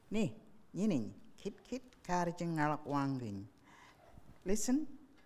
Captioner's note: speaking in foreign language